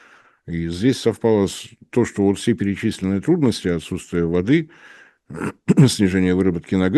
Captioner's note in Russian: фыркает